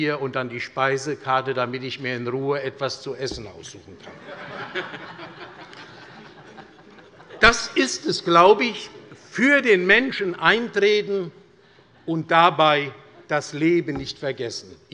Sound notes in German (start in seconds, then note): 4.0 Allgemeine Heiterkeit